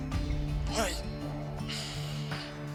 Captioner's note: moans